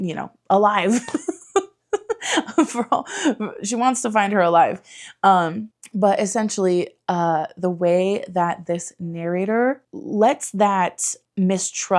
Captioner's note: giggles